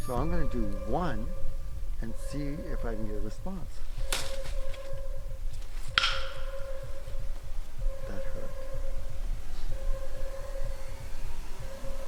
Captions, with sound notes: So I'm gonna do one and see if I can get a response. (wood bangs) That hurt. (eerie music)